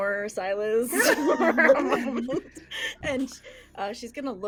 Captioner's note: everyone laughs